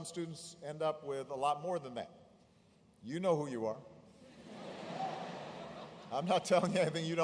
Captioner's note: laughter